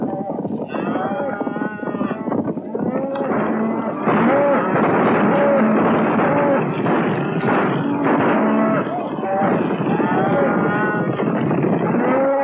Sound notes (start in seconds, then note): 4.0 gunshots